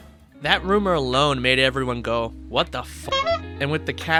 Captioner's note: singing; honk